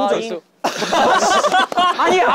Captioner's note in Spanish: Jajaja